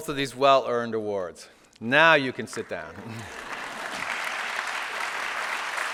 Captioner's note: applause